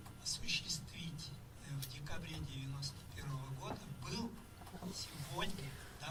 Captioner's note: speaking in foreign language